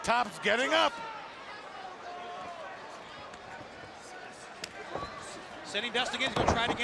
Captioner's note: crowd chatter